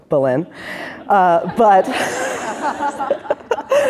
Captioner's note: laughter